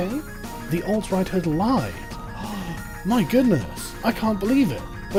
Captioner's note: mocks gasp of shock